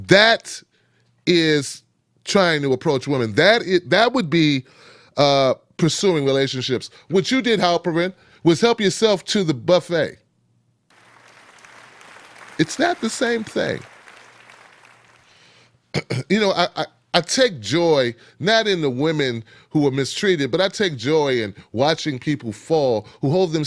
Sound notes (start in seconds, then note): 10.9 audience claps